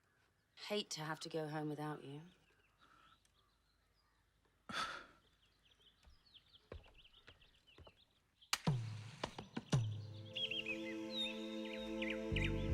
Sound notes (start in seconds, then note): 4.2 scoffs; 8.2 gentle music